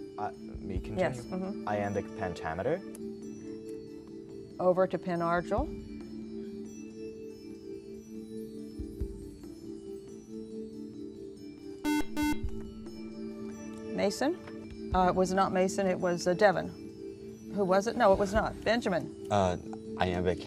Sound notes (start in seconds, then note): 10.2 buzzer